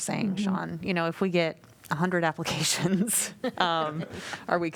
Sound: laughter

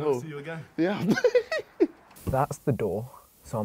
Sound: laughs

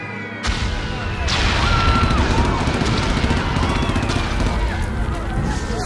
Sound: machine guns popping and people screaming

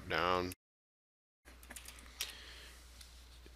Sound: sound of typing

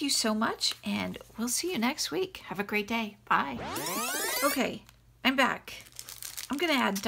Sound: rewind noise

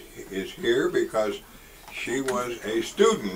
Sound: none

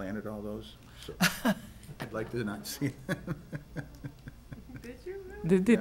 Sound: chuckles

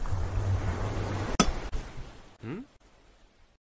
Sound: ocean sounds; pickaxe hits stone

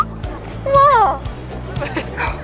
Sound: exclamation

